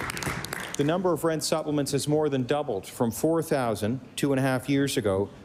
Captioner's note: applause